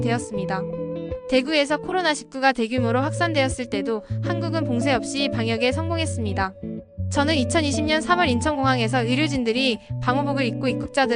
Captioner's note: speaking Korean